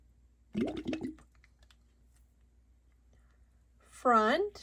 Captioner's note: water bubbles